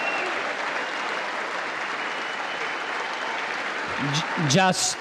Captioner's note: congress applauding